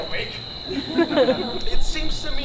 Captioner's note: audience laughs